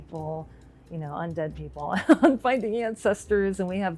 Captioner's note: laughs